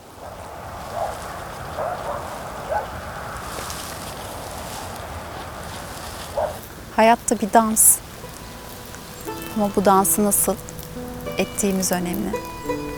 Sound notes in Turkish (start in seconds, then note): 3.0 Yaprak hışırtıları